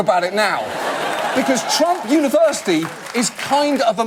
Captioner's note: audience laugh